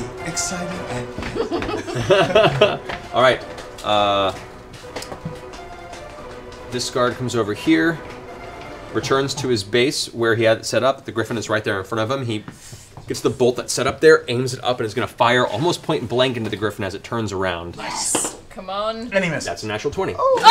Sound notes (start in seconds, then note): 0.5 sings; 4.0 laughs